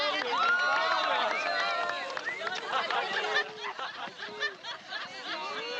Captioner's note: cheering; laughing